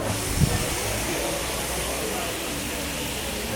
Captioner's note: pan sizzling